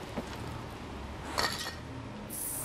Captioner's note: clattering